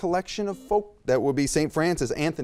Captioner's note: beep